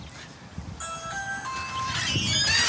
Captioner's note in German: Türklingel